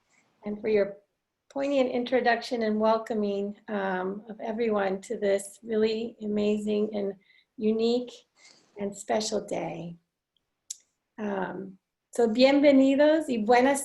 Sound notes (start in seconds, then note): 11.3 foreign language